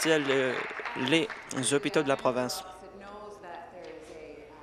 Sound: applause

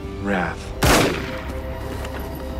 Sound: gunshot

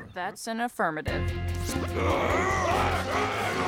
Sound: shouting

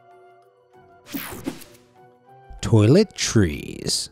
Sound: swoosh effect

